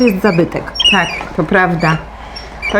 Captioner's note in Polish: skrzypienie